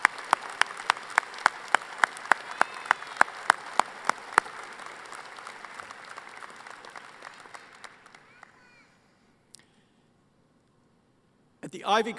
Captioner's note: applause